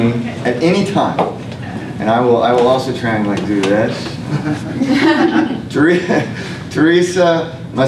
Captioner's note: laughter